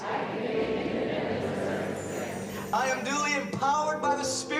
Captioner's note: crowd repeat